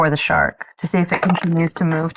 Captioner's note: die rattling